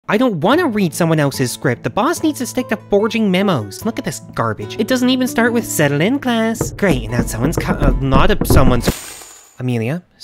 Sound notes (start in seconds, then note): 6.6 knocking at door